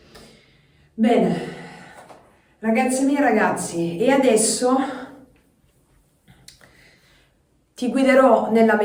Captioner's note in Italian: sospiri